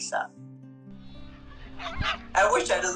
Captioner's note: barking